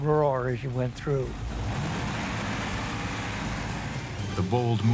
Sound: motor roaring

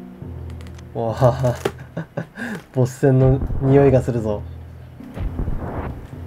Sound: laughs

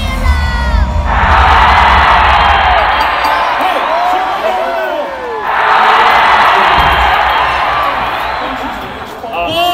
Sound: crowd cheering

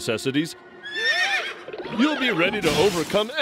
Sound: whinnies

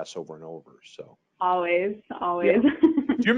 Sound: chuckling

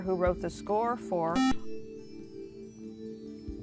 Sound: buzzer

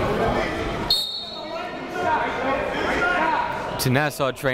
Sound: whistle blows

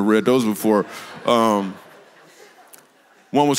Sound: congregation laughs

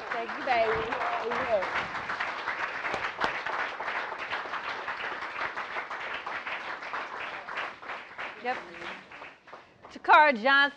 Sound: applause

